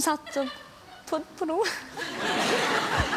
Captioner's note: laughing